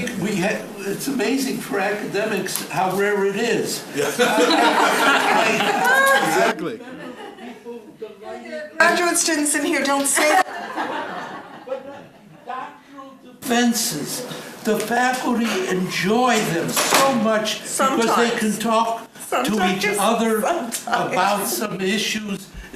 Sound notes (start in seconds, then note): 3.9 laughing; 10.2 laughing